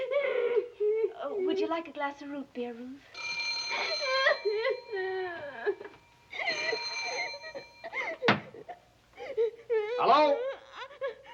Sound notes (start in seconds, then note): 3.1 telephone rings; 5.7 ring